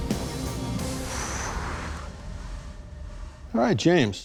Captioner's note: exhales